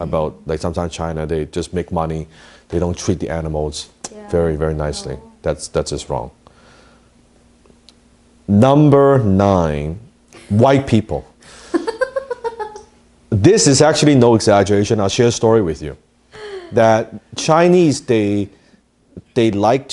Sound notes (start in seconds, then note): 11.7 laughing